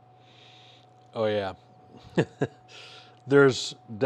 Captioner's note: chuckles